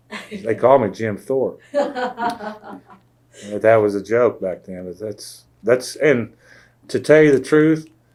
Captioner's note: laughs; laughter